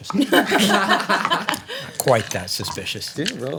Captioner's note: laughter